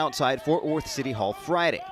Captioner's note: crowd chanting